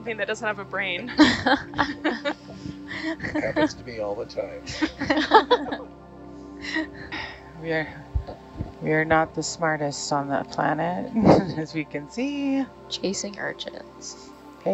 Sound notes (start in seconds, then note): 1.1 all laughing